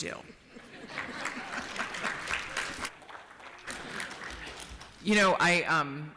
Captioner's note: applause